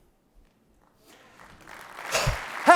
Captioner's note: applause